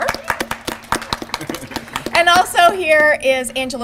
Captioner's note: applause